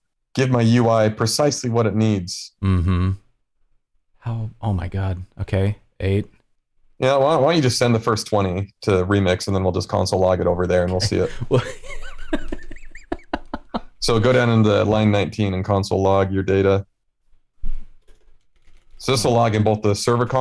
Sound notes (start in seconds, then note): 10.9 laughter